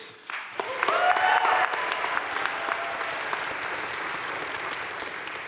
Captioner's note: audience cheering and applauding